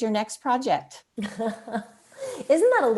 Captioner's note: laughs